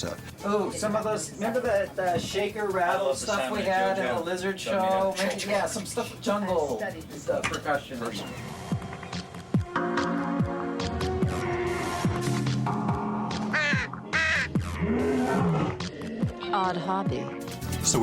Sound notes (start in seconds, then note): 13.3 caws; 14.5 roars